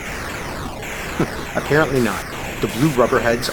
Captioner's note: chuckles